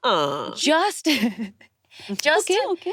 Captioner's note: laughs